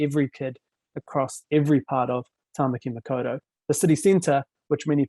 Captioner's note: speaking foreign language